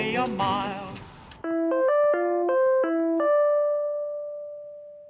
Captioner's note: web call ringing